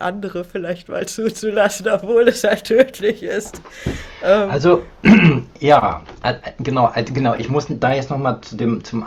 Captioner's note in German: räuspern